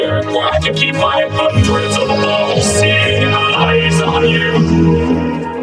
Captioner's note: dramatic voice